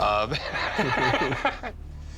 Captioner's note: laughter